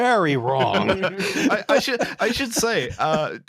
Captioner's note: laughter